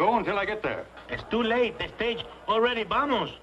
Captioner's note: spanish accent